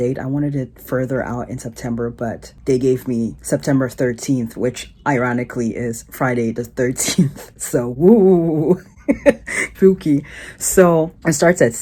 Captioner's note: chuckles